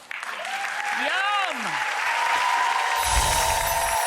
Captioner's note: audience cheers